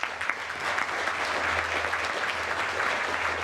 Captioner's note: applause